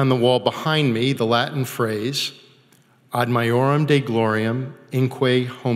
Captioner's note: speaking foreign language